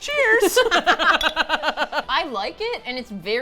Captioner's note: both laugh